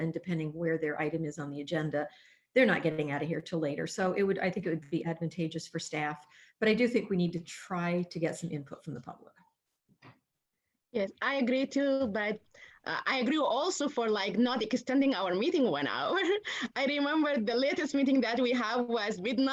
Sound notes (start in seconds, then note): 16.1 laughter